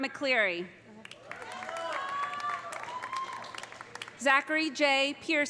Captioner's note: audience applauding; audience cheering